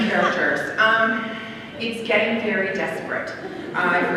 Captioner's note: laughter